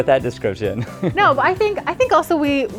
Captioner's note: laughter